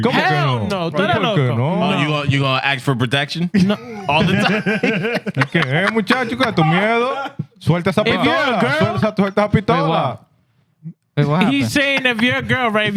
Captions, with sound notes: (Speaking In Foreign Language) You gonna act for protection? No. (Laughing) (Speaking In Foreign Language) He's saying if you're a girl, right?